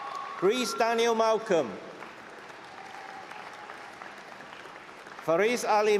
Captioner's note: applause